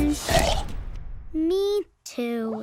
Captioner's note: Belch